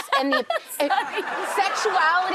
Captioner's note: audience laughs